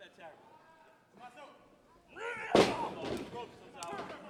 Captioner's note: referee chattering